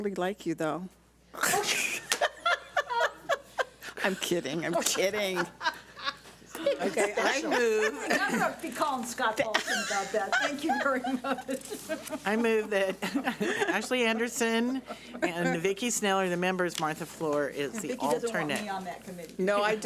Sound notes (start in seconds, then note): 1.4 laughs; 9.3 laughs